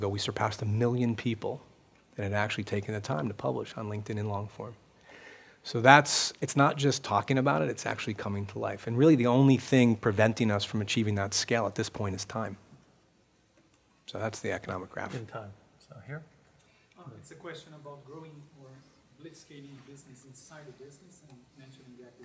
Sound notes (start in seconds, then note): 17.1 voiceover